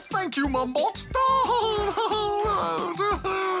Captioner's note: laughs